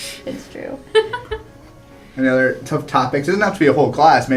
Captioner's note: laugh